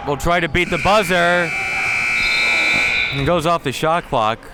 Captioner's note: buzzer sounding